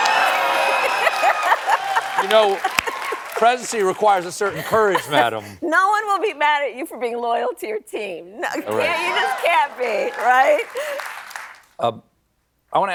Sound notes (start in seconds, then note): 0.1 laughs